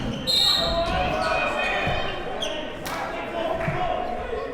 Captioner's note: whistle blows